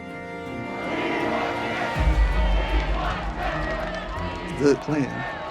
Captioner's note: protesters chanting and shouting